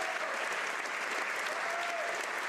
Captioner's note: applause; cheers